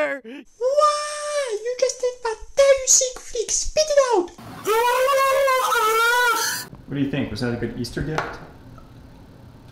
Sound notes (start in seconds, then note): 4.5 indiscernible Screech